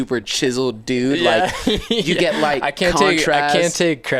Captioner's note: laughs